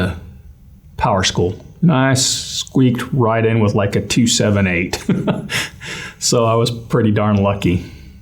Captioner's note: laugh